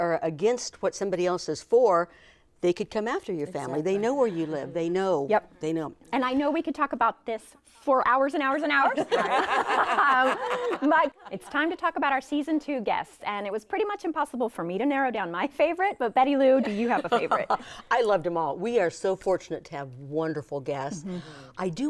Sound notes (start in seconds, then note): 9.0 everyone laughing; 16.6 laughs